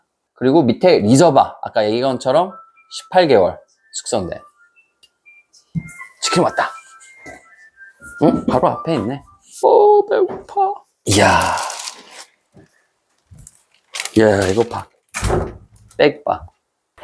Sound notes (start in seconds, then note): 5.3 ringtone